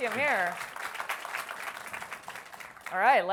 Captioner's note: applause